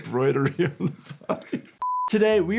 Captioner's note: laughing